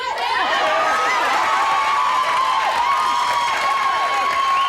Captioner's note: audience cheers